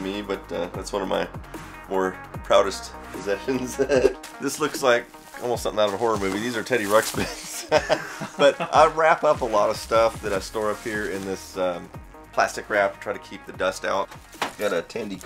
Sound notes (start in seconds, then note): 3.8 laughs; 7.2 laughs